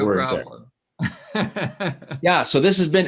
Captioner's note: laughs